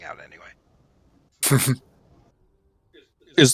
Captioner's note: chuckles